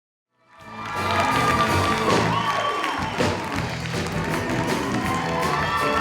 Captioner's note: applause and cheering